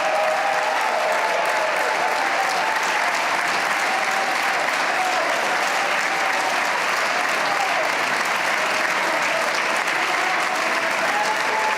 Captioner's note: cheers and applause